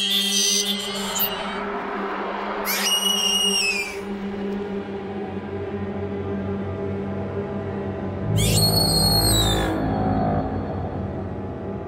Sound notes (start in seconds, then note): 0.0 shrieking noise; 2.6 shriek in distance; 6.5 suspenseful horror music; 8.3 shriek in distance